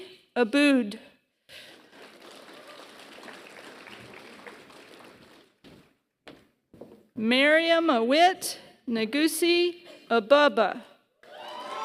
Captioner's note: applause; applause